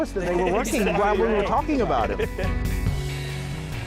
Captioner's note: laughter